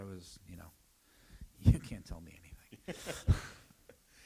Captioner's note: laughter